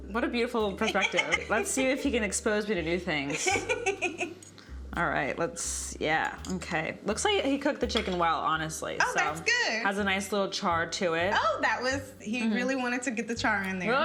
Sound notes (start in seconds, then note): 3.2 laughs